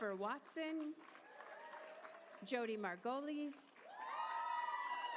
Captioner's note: applause